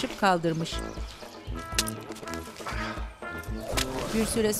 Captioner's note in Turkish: Nefes sesi